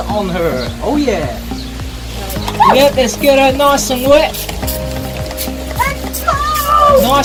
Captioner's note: turns her head away and squeals